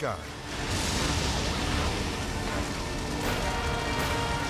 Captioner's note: flames crackling